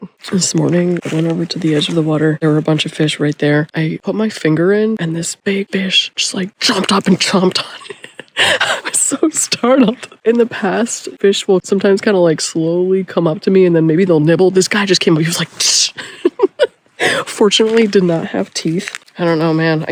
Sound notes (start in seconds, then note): 7.6 laughing; 16.3 chomping noise